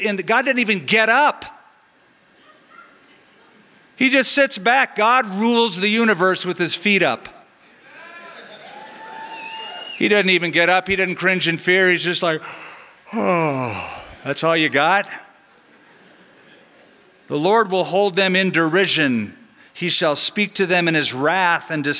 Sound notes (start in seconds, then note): 12.5 yawns